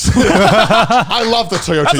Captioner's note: all laughing